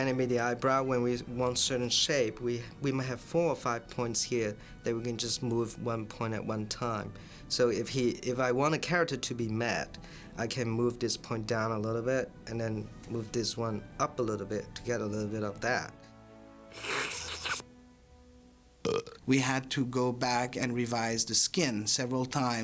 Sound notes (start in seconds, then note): 15.9 slurping, Burping